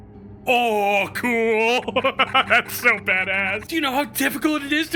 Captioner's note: laughs